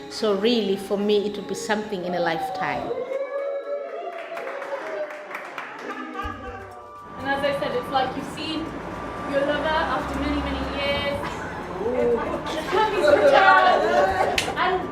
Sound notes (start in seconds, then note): 2.4 cheering; 14.1 laughing